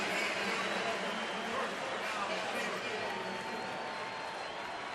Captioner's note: pa announcement